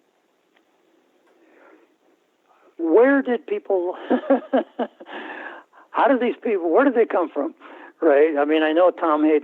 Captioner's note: laughter